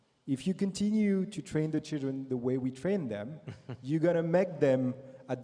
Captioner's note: Sadhguru laughs